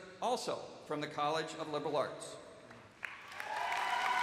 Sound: cheers and applause

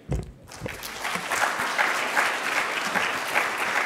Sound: applauding

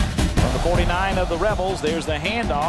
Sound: voiceover

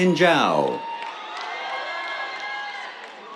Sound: cheers, applause

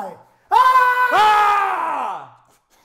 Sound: scream

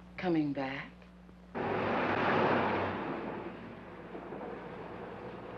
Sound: car engine humming

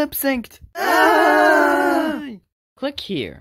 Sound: crowd screams in terror

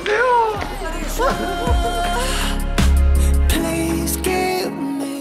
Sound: laughs all around as the shoot ends!

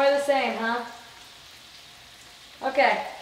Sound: sizzling

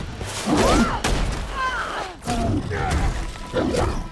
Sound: Perez screaming; Master Chief grunting; creature roaring

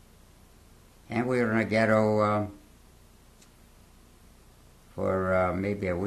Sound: pauses for 3 seconds; pauses for 3 seconds

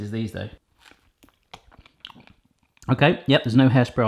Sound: wet chewing

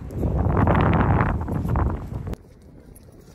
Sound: wind blowing

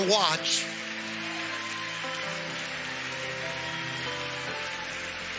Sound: congregation cheering and clapping

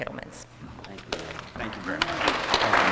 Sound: applause

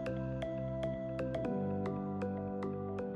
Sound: none

